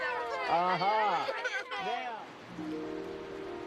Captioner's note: children groaning